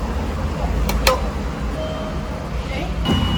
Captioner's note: ding dong